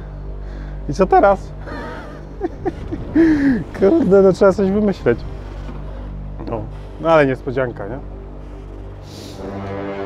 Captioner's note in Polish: śmiech